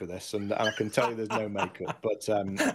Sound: laughing

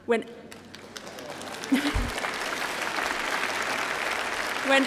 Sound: applause

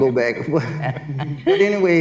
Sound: laugh

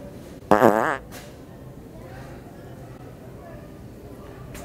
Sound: farting noise

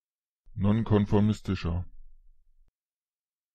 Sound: fast Pronunciation

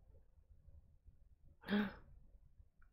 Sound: light gasp

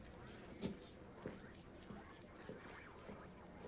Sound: indistinct chattering continues

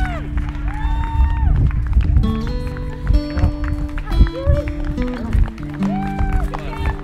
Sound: cheers

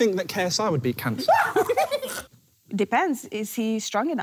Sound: laughing

